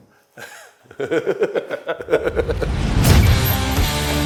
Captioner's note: men laugh; country rock music